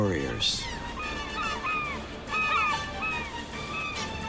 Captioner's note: seagulls caw